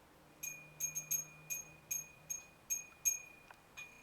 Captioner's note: bell rings